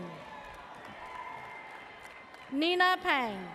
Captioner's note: audience cheers